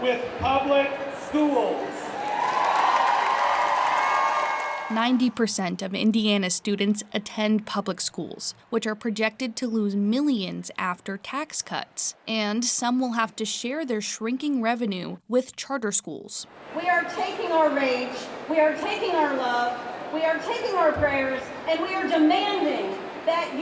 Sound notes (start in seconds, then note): 5.5 cheers